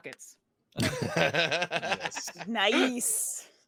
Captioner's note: laughing